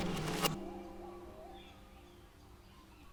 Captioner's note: jungle Animal Noises